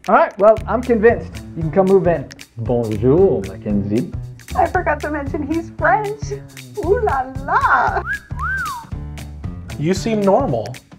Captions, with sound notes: -Alright, well I'm convinced. You can come move in. -Bonjour, Mackenzie! -I forgot to mention he's french. Oh la la. [Whistling] -You seem normal.